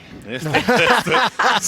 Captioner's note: laughter